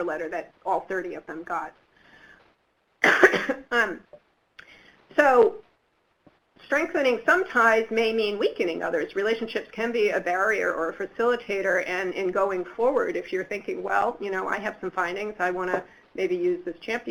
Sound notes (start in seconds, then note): 3.0 coughing